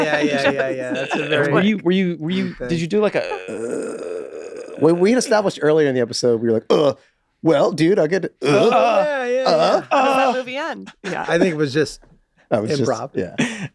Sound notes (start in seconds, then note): 3.0 groans; 8.4 grunts